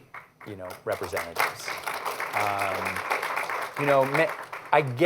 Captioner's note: applause